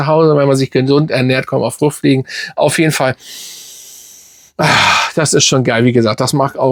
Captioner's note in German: seufzt